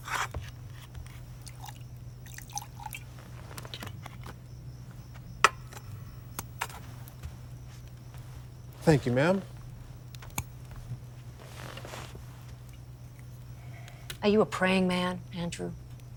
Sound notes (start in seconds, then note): none